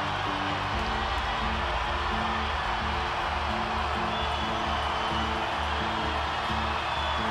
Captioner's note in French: acclamations